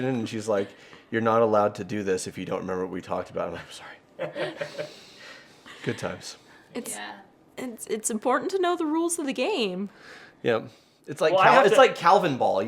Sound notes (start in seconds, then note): 4.2 laughing